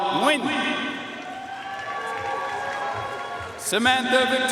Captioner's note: audience cheering and applauding